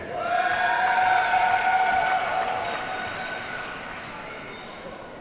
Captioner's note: audience cheers and applauds